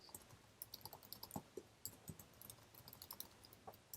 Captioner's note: keyboard clicking